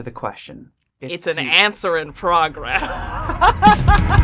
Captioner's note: both laughing; upbeat music